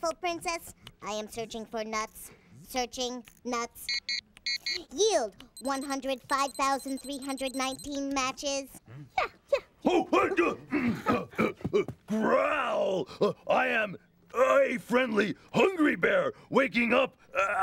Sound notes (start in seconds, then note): 4.4 electronic beeping